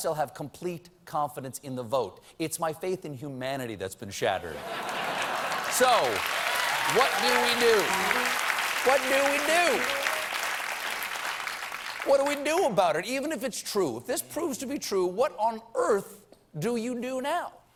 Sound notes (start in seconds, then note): 7.9 applause